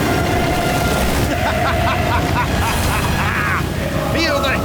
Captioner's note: maniacal american noises